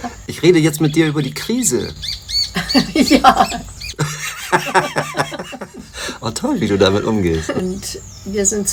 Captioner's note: laughs